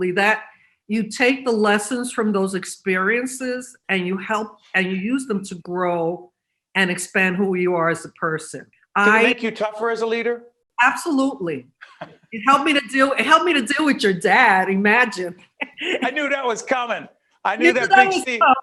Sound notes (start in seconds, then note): 15.6 laughing